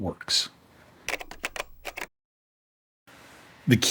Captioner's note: typing